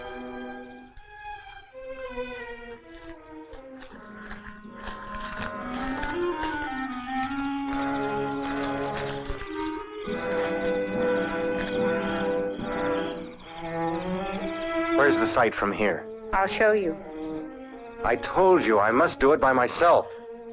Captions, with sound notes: (paper tearing) (crickets chirping) Where's the site from here? - I'll show you. - I told you, I must do it by myself.